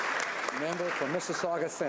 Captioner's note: applause